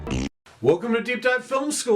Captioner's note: blowing a raspberry